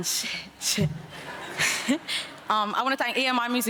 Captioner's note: chuckles; audience laughs